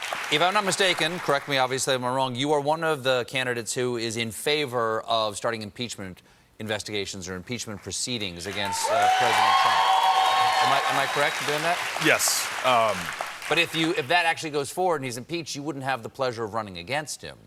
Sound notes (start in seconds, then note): 12.8 applause